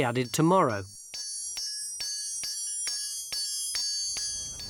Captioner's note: metal clanging